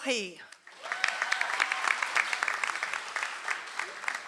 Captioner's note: audience applauds